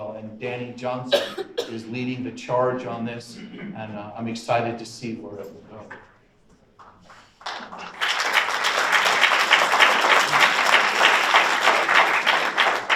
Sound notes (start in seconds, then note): 6.8 audience applauds